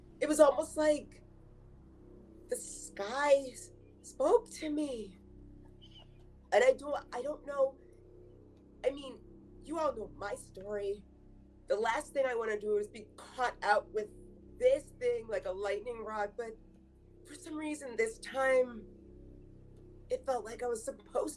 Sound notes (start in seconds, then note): none